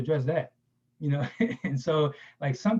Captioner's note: laughing